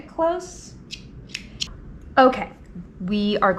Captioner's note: scissors snipping